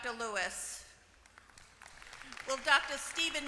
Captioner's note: applause